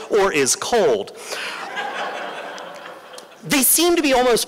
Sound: laughter

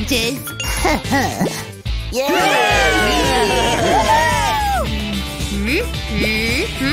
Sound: making happy sounds; groans

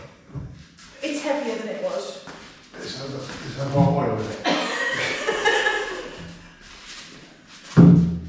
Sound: laughter

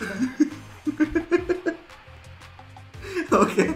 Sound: laughs

